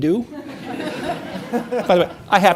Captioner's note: audience laughing